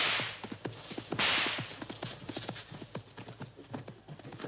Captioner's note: whip cracking